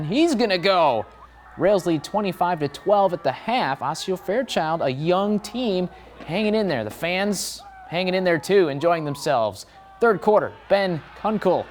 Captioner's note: fans enjoying themselves